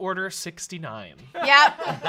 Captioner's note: off-camera laughing